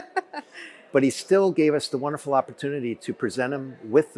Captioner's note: laughter